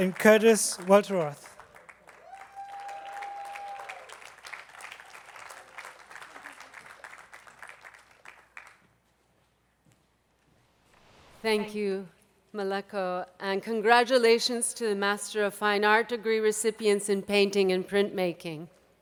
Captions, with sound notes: And Curtis Welteroth. (attendees clapping) - Thank you, Meleko and congratulations to the master of fine art degree recipients in painting and printmaking.